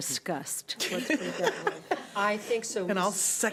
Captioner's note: laughing